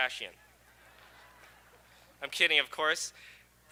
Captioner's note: audience laughing